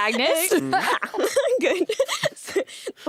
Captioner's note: giggles